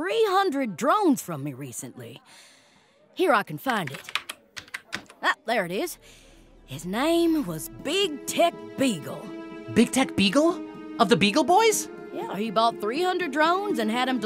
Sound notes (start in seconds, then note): 4.5 keyboard tapping; 9.1 tense music playing